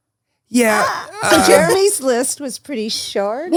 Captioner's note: laughs